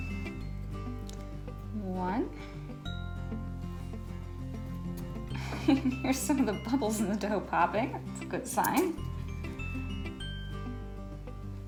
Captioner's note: laughs